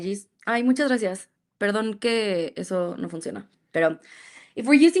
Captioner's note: speaks in Spanish